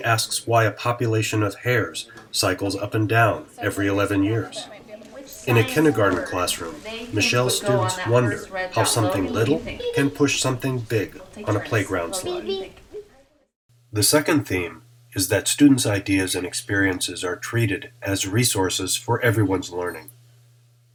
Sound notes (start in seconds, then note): 4.6 chatter